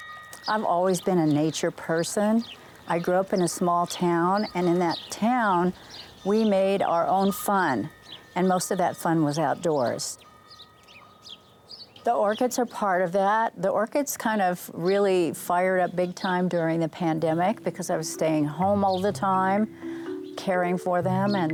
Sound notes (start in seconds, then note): 0.0 chimes; 10.4 birds